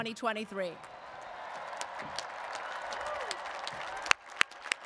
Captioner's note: audience applauds